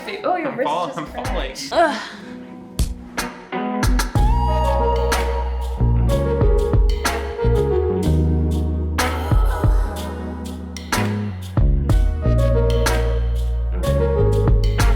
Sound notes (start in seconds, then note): 1.7 sighs; 4.2 gentle music